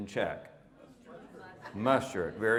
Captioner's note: audience mumbles